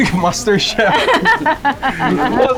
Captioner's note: laughs